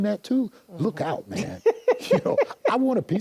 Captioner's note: laughs